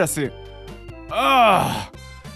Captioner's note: groans in pain